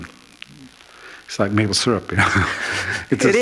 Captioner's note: laughter